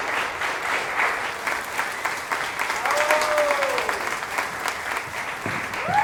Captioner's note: cheering and applause